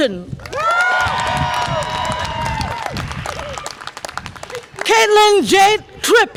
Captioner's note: audience applause and cheer